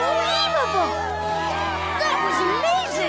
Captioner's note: all cheering